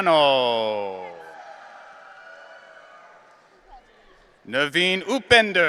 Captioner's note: audience cheering